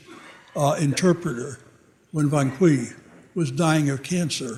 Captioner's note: audience laughing